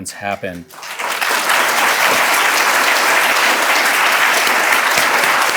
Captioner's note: audience applauding